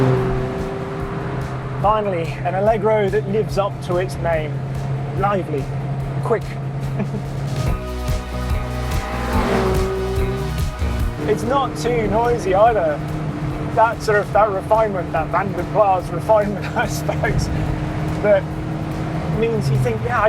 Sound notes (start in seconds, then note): 0.3 car vrooms; 6.9 chuckles; 9.4 car vrooms; 9.4 groovy music continues